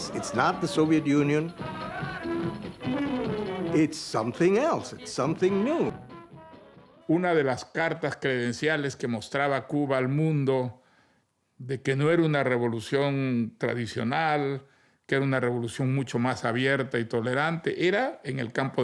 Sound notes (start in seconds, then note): 7.1 speaking Spanish